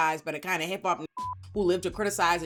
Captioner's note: beep